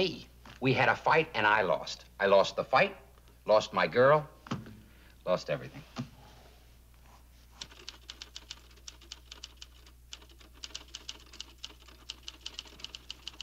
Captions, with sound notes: We had a fight and I lost. I lost the fight, lost my girl, lost everything. (typing)